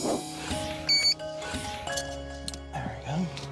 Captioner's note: beeps